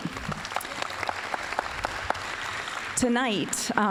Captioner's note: applause